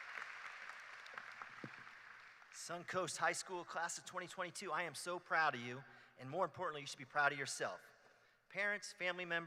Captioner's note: applause